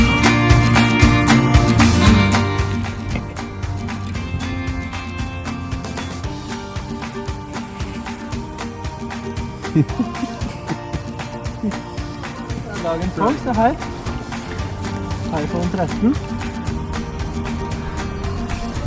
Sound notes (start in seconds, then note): 9.9 laughs